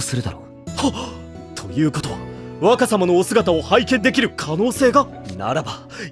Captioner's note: gasp!